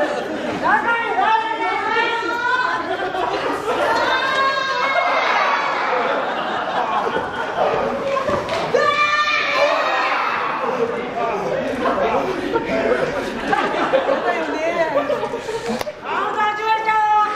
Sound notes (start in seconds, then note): 5.8 laughs